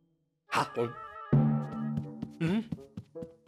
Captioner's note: gulp; foot tapping